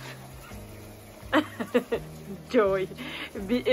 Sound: laughters

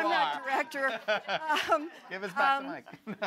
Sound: laughter

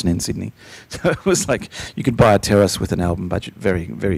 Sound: laughing

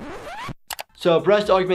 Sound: background record scratching; background mouse clicking

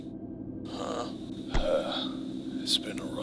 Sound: exhale

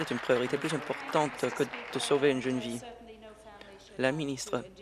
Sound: applause

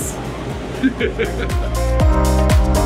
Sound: laughing; positive upbeat music

